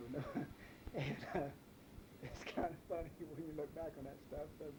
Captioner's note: chuckles